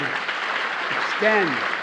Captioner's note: applause